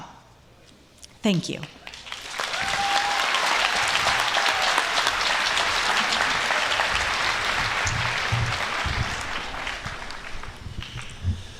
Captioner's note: applause